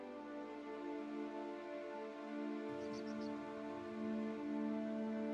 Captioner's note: birds chirping